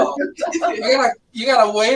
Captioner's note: laughs